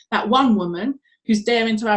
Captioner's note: none